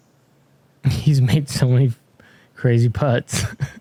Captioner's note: chuckles